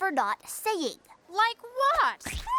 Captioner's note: splat